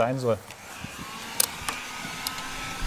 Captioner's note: föhn noises